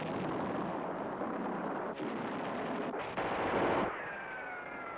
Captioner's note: guns fire